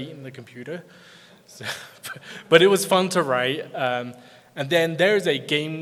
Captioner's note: laughs